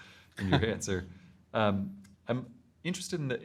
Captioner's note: both chuckles